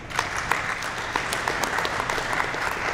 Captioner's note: applause